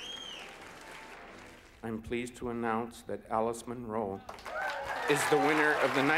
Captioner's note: applause